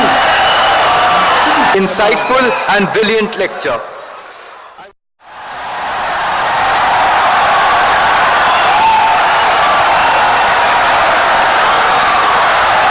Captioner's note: wild applause and cheering for 17 seconds